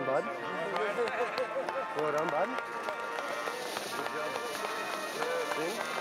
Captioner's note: applause and band playing